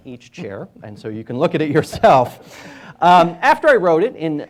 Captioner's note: laughing